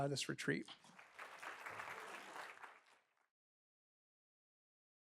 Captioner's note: applause